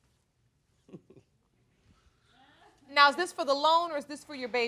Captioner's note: chuckling